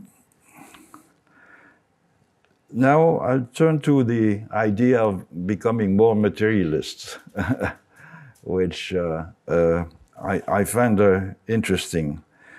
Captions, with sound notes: Now I'll turn to the idea of becoming more materialists, (chuckles) which I find interesting.